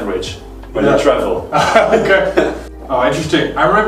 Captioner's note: both laugh